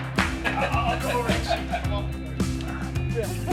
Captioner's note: clapping